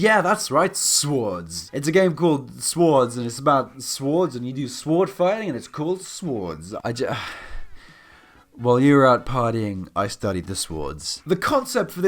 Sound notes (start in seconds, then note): 7.1 sighs